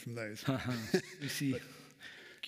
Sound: chuckles

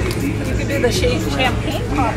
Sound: none

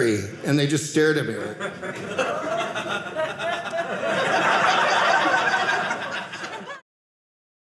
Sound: audience laughing

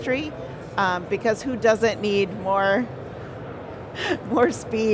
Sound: chuckles

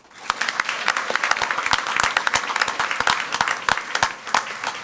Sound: crowd clapping and cheering

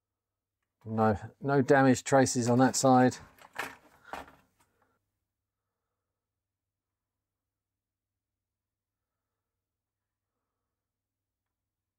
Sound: keyboard Clacking

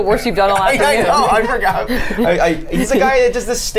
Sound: laughs

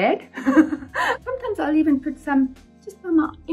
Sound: chuckles

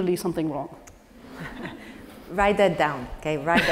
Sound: laugh

